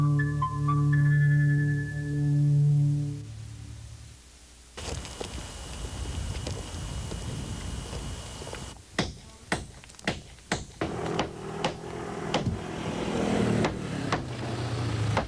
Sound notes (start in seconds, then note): 8.9 hammering; 10.8 atv motor running